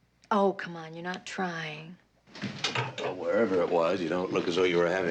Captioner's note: none